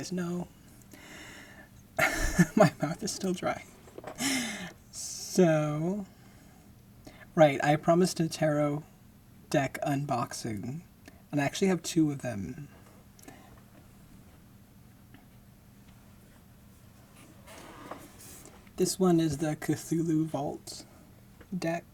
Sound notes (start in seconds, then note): 0.3 laughing; 13.8 chair creaking